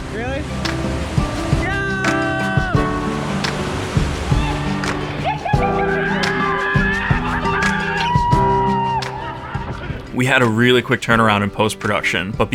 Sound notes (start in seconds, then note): 1.6 water rushing; 4.3 excited screaming